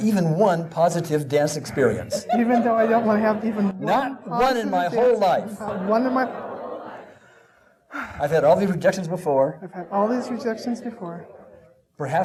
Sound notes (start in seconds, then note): 7.0 exhaling